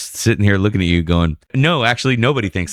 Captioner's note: uh